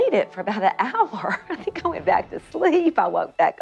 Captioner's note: laughs